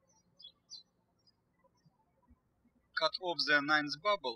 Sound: birds chirping

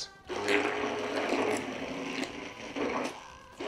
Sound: whirring

